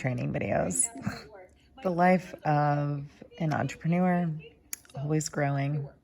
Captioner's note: laughs